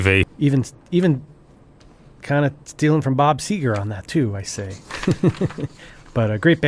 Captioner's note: chuckles